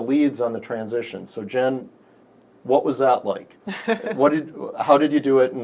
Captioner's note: laughs